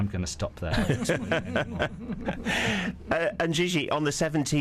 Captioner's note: laughs